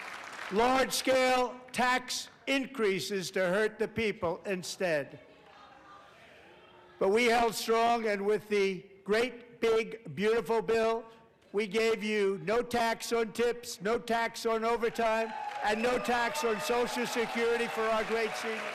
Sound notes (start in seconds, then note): 0.0 applause